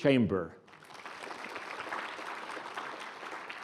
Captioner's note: applause